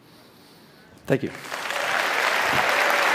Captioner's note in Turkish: Alkışlar